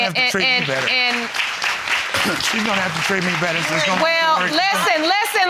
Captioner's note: audience applauding